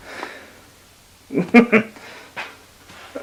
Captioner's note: laughs